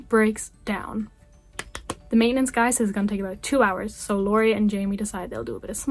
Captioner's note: claps